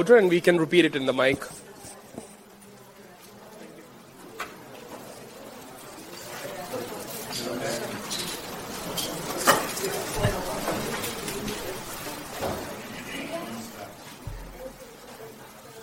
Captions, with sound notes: and we can repeat it in the mic. (audience murmurs)